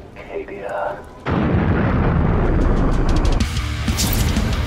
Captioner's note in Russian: бум